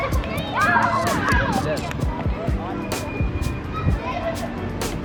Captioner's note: children chuckling happily; light bright music